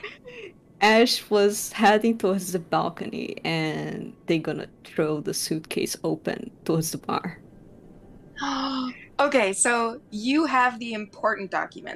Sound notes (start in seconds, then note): 7.8 gasps